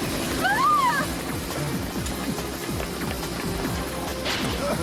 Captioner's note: chopper blades whirring; girls shriek